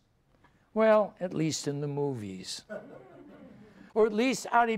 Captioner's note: audience laughs